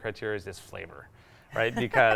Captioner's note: laughing